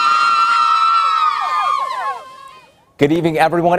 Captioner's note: cheering